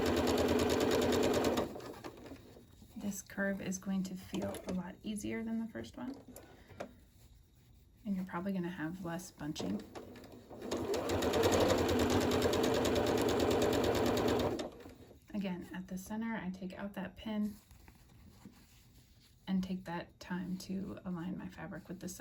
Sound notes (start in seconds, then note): 0.0 sewing; 12.8 sewing